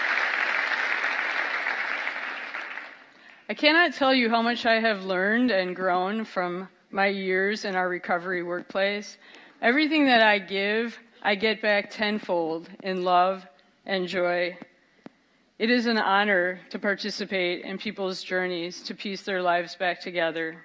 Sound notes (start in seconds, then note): 0.0 cheers and applause